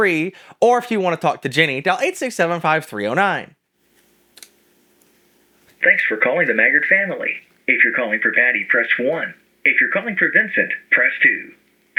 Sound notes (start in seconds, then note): 5.5 audio plays on phone